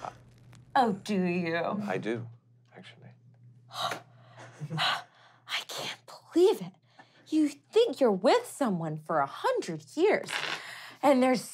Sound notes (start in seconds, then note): 4.1 gasping